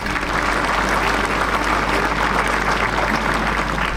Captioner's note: clapping